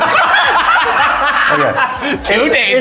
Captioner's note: all laughing